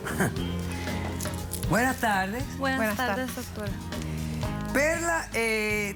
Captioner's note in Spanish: risas